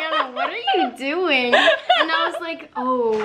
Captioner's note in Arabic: تضحك